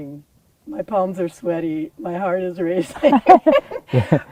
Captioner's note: laughter